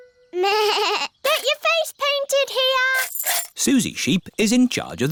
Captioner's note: bleats